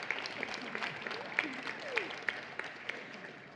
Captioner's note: applause